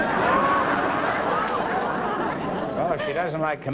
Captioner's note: laughter